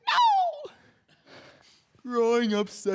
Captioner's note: heavy breathing